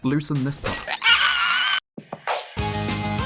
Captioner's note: shrieks